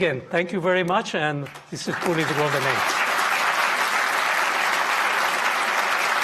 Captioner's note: audience applauding